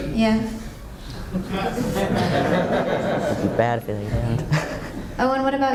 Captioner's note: laughter